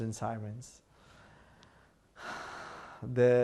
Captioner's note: sighing